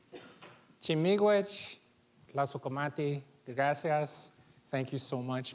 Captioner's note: foreign language